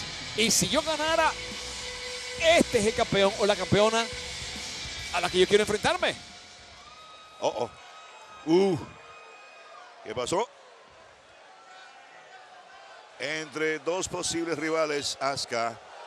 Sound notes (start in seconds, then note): 7.8 applause